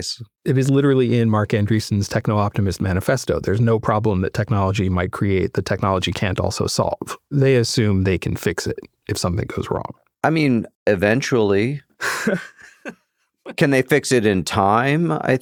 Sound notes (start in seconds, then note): 12.0 laughs